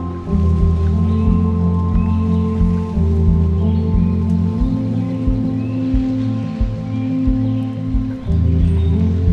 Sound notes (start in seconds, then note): 2.3 atmospherical music; 2.3 birds chirping